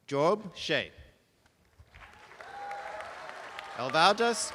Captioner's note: applause